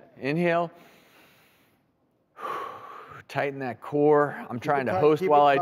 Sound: exhales

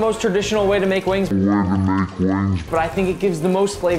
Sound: distorted

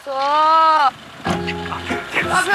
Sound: door closing

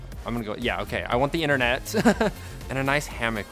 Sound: laughs

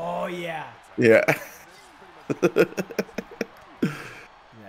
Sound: laugh

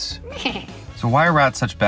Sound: rat chuckles

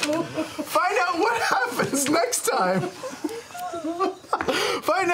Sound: group laughter; laughing

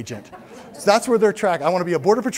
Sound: laughter

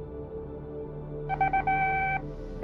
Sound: beeping

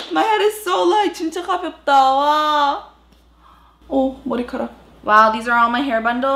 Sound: speaking in foreign language

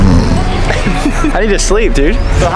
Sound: man snores; Spider-Man giggles

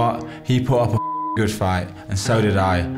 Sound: beep

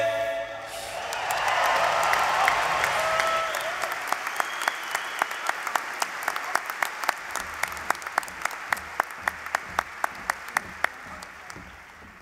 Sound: applause

